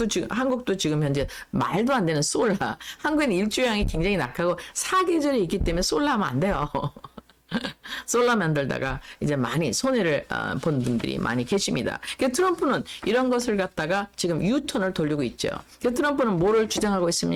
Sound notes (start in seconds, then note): 7.4 laughs